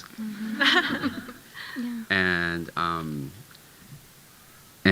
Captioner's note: audience chuckling